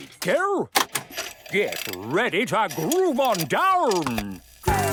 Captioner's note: clicks, whirring; disco music plays